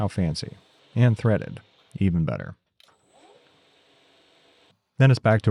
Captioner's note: machine whirring